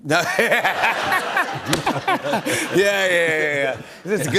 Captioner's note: laughs